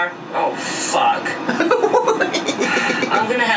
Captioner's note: laughs